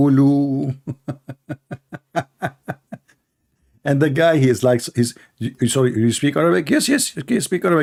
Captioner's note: Ketawa